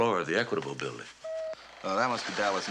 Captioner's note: telex machine beeps